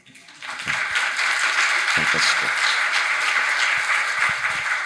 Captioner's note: audience applauding